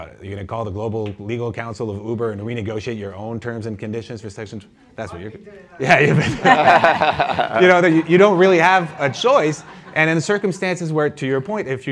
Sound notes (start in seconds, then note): 5.9 laughter